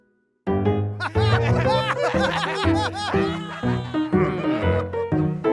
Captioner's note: cheering